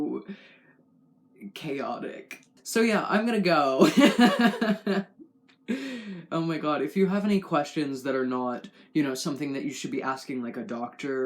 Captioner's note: laugh